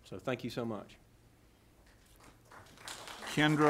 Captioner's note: applause